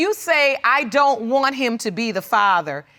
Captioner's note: none